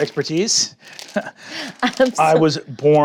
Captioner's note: chuckles